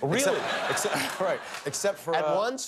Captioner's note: laughter